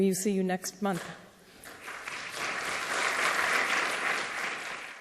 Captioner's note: applause